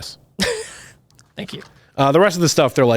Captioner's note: laughs